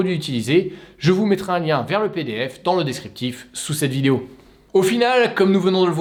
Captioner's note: in french